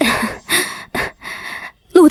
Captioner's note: cough, cough